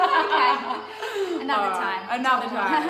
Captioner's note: laughing